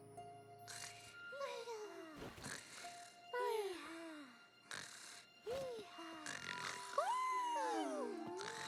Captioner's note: soft snoring and murmurs